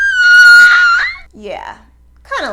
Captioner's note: crying